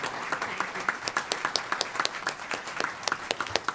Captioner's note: applause